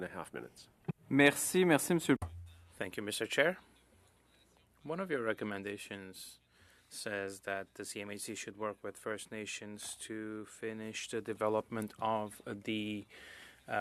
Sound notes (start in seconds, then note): 8.7 speaking French